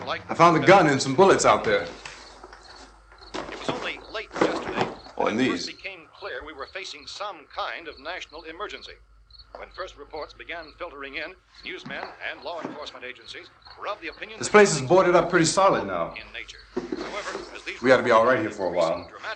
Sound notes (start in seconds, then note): 3.3 radio news continues; 5.8 radio news continues